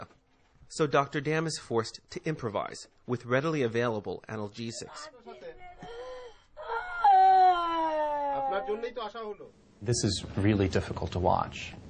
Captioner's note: crying